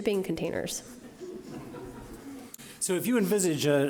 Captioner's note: audience laughing